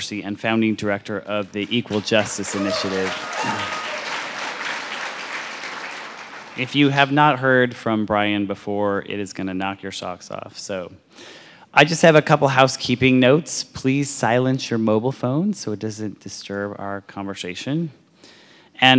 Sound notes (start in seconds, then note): 3.3 audience applauds and cheers